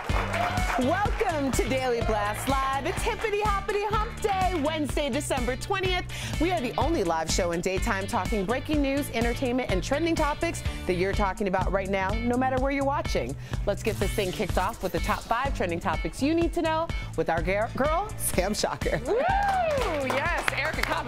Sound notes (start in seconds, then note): 2.2 applause